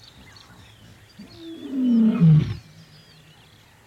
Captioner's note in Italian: ruggito